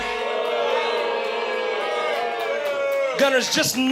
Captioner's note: audience boos